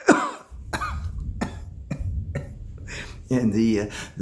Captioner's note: coughs